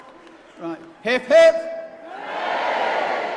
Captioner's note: cheers